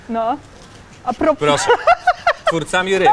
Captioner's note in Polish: śmiech